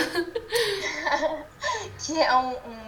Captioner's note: laughs